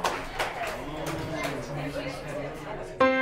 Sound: audience applauding; crowd chattering

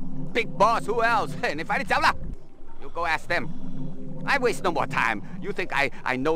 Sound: speaks Chinese

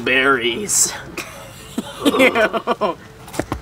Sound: laughing

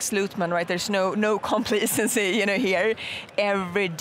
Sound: chuckling

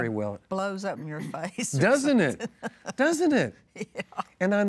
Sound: laughs

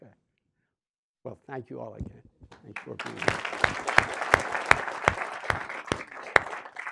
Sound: audience claps

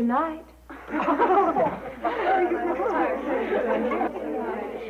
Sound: laughter

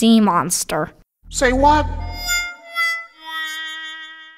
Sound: voiceover

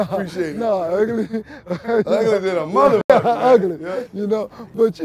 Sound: laughing

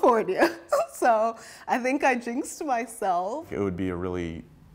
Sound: laughter

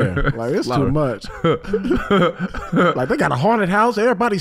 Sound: Iman laughing

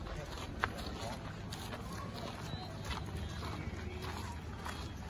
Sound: walking on crunchy gravel

